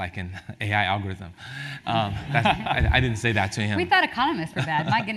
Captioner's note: laugh